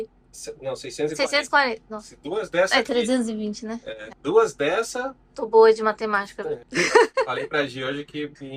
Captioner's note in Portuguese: risadas